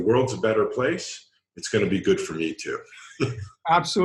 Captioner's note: laughs